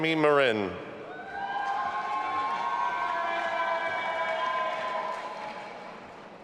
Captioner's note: audience applauding and cheering